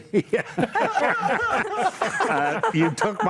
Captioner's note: panelists laugh